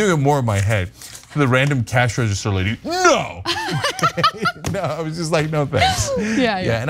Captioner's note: laugh